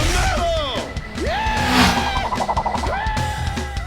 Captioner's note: screams